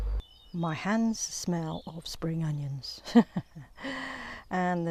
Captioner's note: laughs